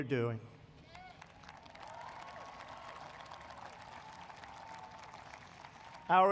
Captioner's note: applause